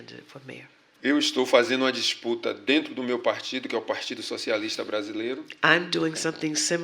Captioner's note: speaking portuguese